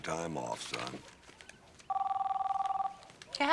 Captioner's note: cell phone ringing